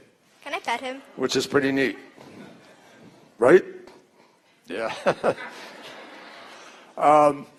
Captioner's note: laughter